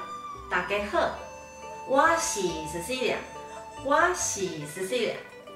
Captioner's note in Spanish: en taiwanes